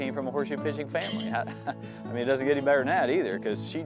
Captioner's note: laughs